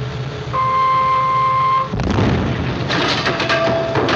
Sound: explosion

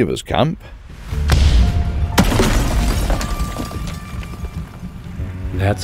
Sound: cannon shot, building impact, debris falling

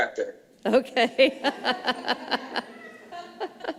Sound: laughs

